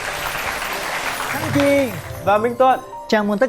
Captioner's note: applause